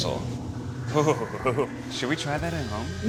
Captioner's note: shudders